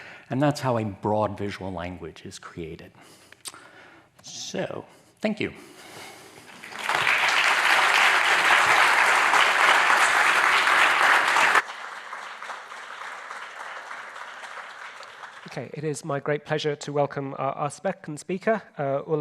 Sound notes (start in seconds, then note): 6.8 audience applauding